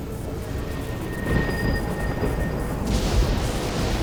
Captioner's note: thunder rumbling